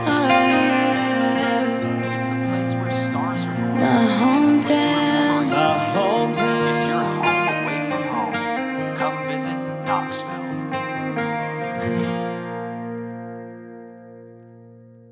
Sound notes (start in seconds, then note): 6.8 television; 11.7 upbeat music ending